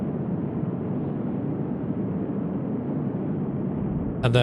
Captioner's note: wind blowing